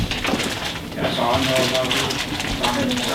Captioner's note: voiceover